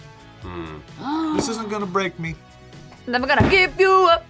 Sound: gasps

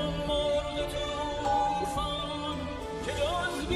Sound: music playing in the room; doorbell ringing; music playing in the room

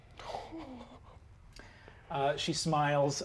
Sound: chuckles

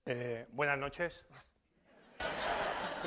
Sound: speaking spanish; laughter

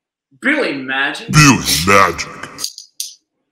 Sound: deep Voiceover

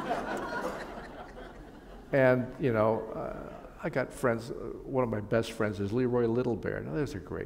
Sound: laughter

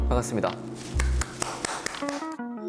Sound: applause

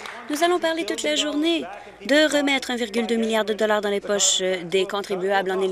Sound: applause

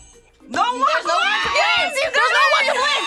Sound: buzzer rings; bell rings

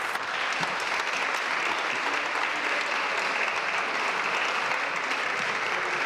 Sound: applause

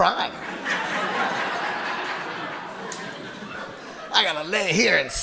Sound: audience laughing

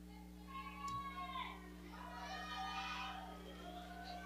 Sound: audience cheering

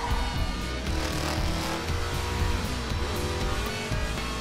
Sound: engine revving

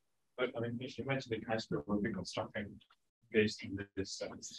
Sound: speaking faintly

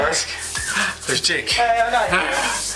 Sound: gasps

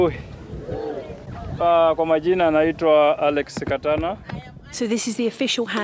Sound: speaks in Swahili

